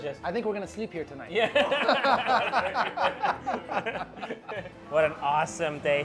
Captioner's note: laughing